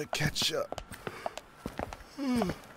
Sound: yawning again

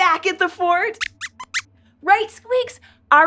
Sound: squeaks squeaks

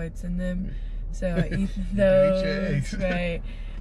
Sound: laugh

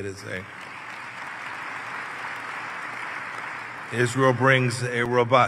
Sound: applause

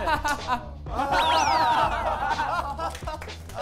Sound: awkward laughter

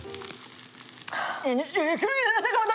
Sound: exhale

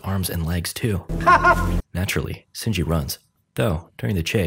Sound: Miki laugh

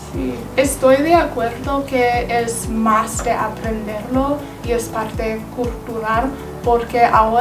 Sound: another language

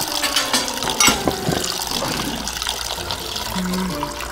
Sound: orange juice pouring

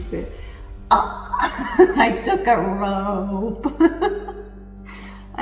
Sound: laughs

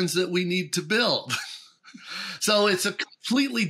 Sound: chuckles

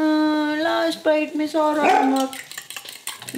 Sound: dog barks

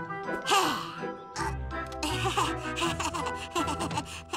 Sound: chuckles awkwardly

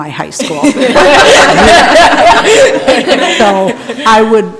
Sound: people laughing

